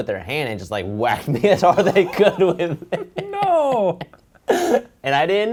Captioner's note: laughs